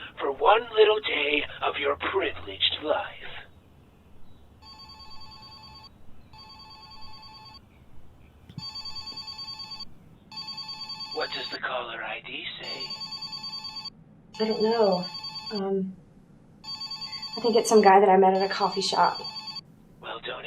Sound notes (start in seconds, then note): 6.3 telephone ringing